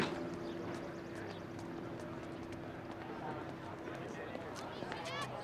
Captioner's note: students chattering